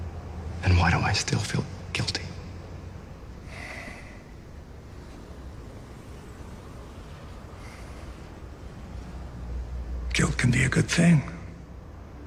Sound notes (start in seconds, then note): 3.4 sighs